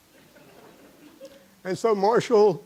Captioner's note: laughter